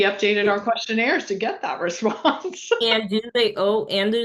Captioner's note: laughing